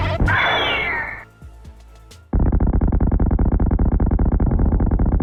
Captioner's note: in-game bomb explosions